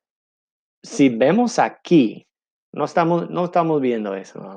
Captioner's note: in foreign language